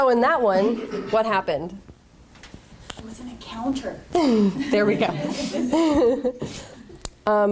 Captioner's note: laughter